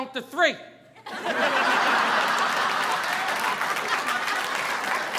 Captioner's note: audience laughing